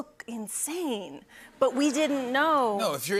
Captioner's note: laughter